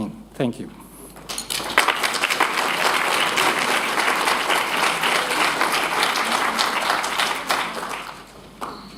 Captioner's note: applause